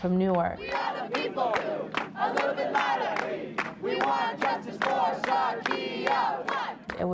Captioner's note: protesters chant